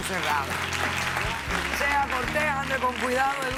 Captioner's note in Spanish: aplausos